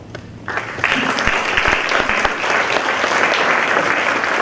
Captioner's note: applause